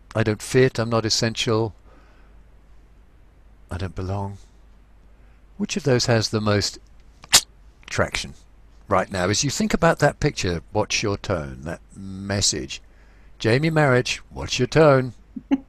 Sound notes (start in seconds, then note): 7.2 clicks